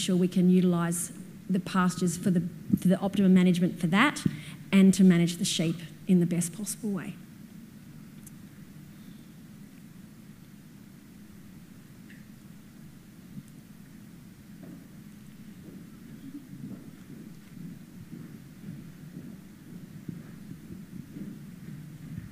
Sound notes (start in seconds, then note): 9.1 pause